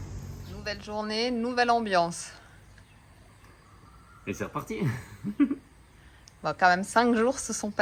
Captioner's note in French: rires